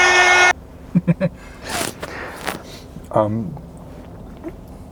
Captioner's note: chuckles